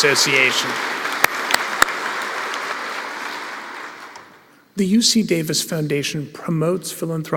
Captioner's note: applause